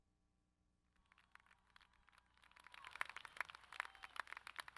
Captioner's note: audience claps